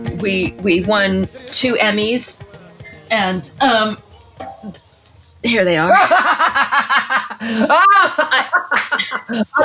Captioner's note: bursts out laughing